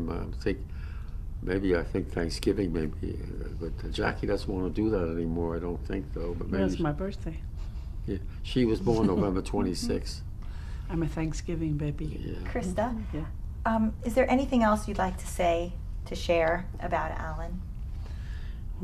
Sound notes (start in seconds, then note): 8.8 laughs